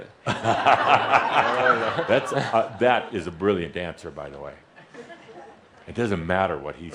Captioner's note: laughter